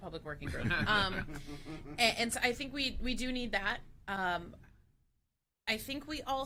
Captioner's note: laughter